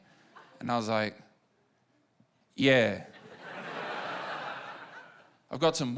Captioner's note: laughter